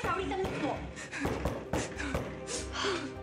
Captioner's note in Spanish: sollozos